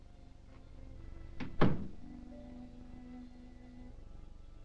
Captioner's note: gentle somber music; door thudding